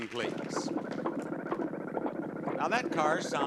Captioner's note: car chugging